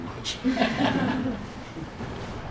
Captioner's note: laughter